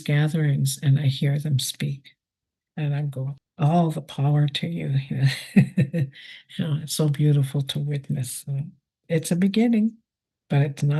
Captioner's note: laughs